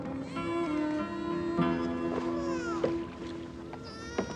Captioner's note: baby fussing